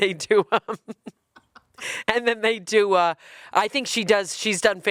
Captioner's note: chuckling